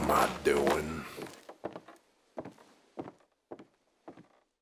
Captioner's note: footsteps receding